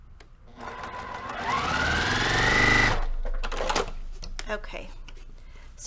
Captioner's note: sewing machine rattling